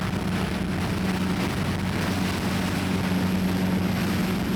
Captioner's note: motor rumbling